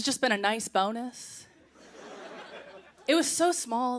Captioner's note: laughter